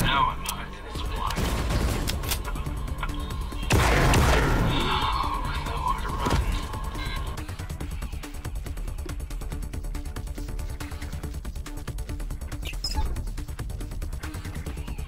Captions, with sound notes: - Now I'm not in supply. (gunshots)